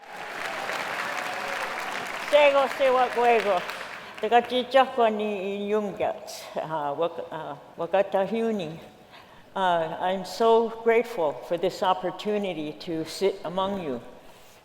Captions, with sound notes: [APPLAUSE] [SPEAKS NATIVE LANGUAGE] I’m so grateful for this opportunity to sit among you,